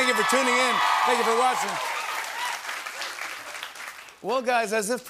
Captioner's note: cheers and applause